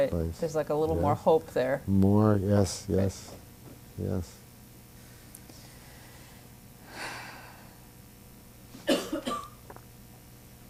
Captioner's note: sighs